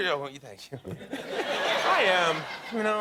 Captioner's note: laughter